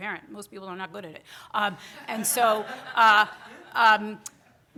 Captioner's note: audience laughter